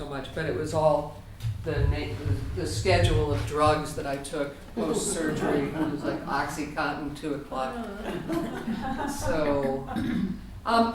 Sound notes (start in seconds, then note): 7.8 audience laughter